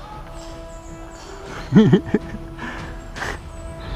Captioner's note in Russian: злорадный смех